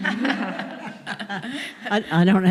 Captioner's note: laughter